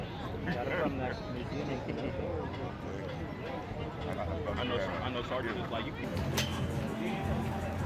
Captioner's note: people chattering